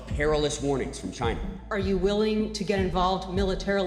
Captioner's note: soundbite of archived recording